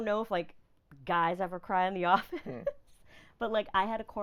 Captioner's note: laughing